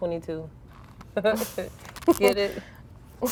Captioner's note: girls laughing